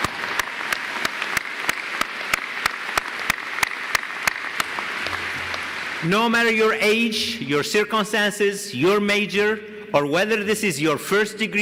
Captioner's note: applause